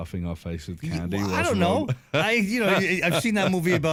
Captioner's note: laughter